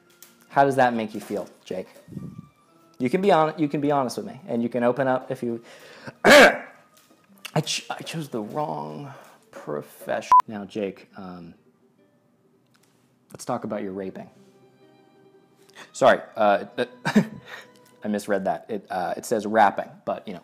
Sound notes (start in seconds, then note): 6.1 cough